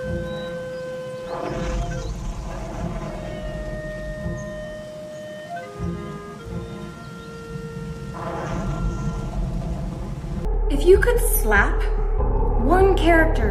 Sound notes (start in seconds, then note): 1.2 fire roaring